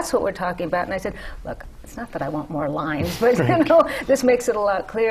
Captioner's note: laughter